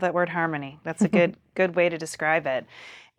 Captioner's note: chuckles